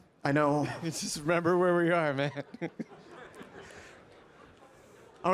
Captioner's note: chuckles